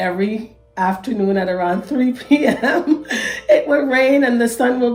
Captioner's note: laughs